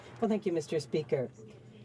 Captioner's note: some Applause